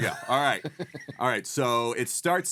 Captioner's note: laughing